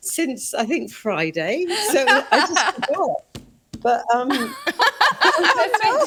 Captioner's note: all laughing